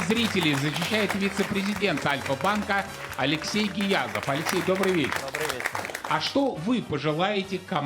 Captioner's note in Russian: аплодисменты